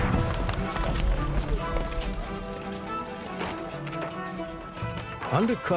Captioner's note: metal clanging; energetic polka music